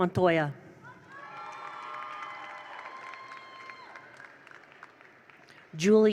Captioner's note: attendees cheer; attendees applaud